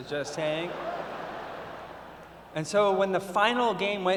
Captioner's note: laughter